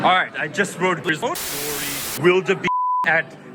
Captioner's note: in Canadian accent